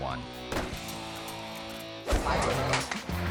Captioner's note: rock music; rider thudding; dot whooshing; rock music